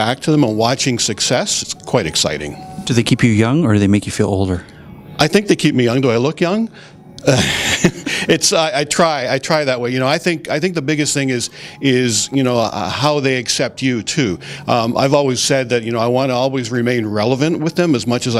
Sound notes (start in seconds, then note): 7.2 laughter